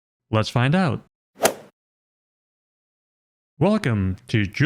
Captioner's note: golf ball hit sound effect